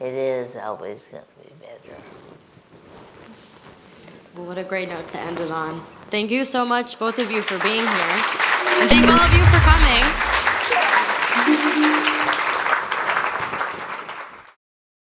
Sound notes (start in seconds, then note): 10.4 jingle; 10.4 audience applauds